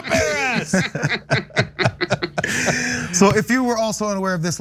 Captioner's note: laugh